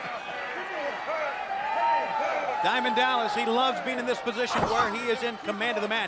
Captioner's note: crowd chatter